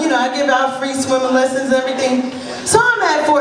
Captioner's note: none